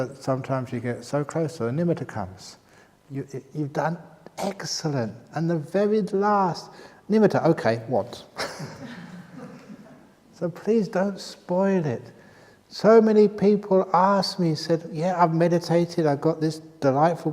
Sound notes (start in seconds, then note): 8.3 laughter